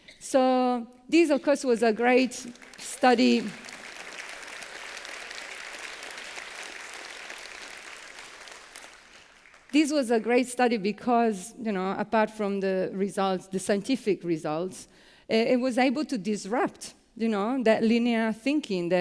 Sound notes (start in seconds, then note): 4.2 applause